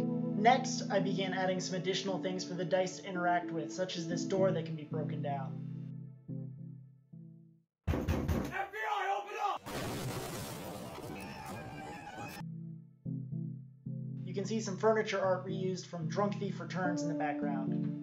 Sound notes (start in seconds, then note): 7.9 loud Knocking; 10.6 FBI Agents Screaming as They Attack